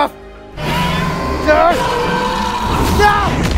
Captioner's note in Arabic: العقرب يزأر